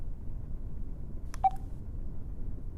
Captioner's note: electronic beep